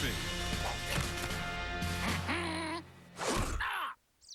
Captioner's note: quacks